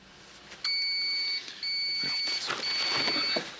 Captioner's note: microwave beeping